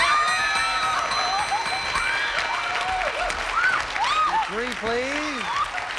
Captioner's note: audience applauding